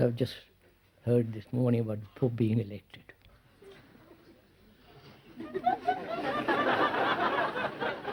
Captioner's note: laughter